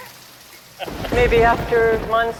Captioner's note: thunder rumbling